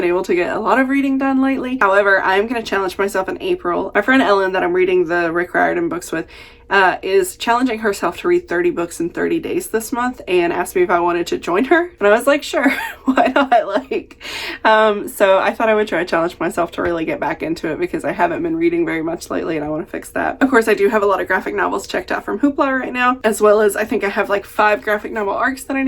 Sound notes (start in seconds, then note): 12.6 laughs